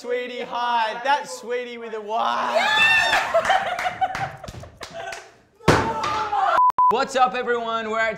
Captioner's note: laughing